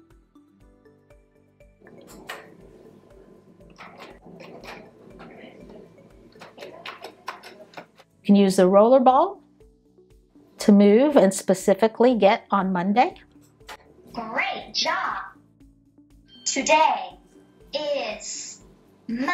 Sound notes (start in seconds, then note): 2.0 click; 3.8 keyboard clicking